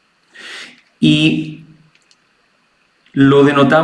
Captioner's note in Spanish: resoplido